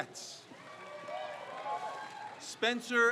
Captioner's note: crowd cheers